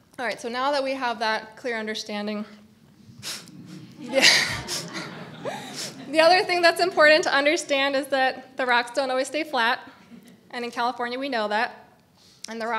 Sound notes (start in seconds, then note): 3.6 laughs